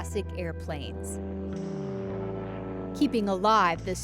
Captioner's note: plane engine